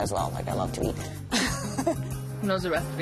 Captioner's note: laughs